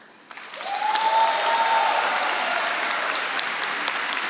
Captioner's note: audience applauding